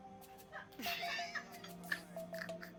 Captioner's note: laughing